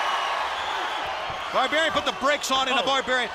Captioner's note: crowd cheering